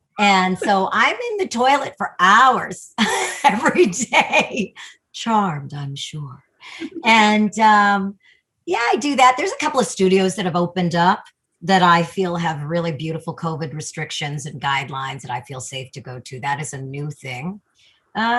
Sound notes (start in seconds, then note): 3.3 laughs; 6.8 giggles